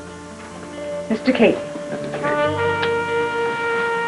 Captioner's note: kiss